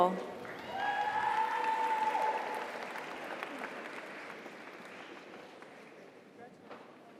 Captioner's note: audience applauds; audience cheers